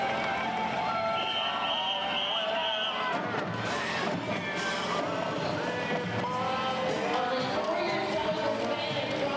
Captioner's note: band music; whistles; band music